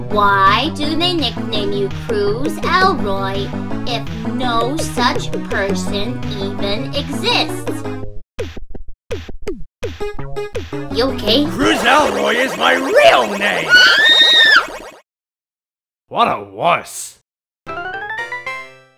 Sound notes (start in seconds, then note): 13.6 screams